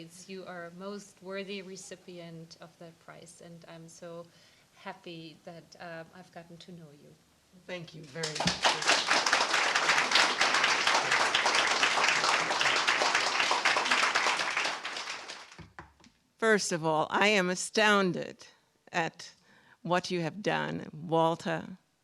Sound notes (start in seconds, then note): 8.1 applause